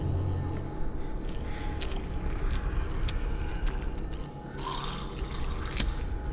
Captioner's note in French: Bruit de la chair déchirée et de mastication